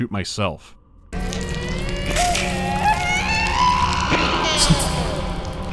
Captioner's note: wet, fleshy sounds, accompanied by a prolonged shriek of inhuman suffering